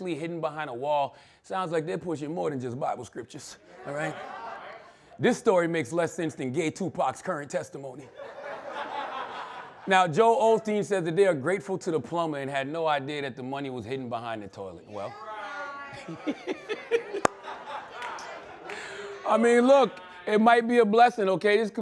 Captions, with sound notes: hidden behind a wall sounds like this was more than just bible scriptures, all right? This story makes less interesting gay Tupac's current testimony. (laughter) Now Joel Osteen said that they are grateful to the plumber and had no idea that the money was hidden behind a toilet. Well... (audience reacts) I mean, look, it might be a blessing, okay?